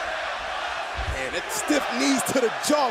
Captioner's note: fans chanting